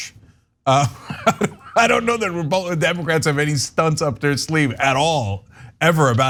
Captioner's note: laugh